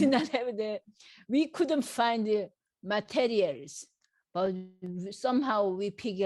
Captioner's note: laughs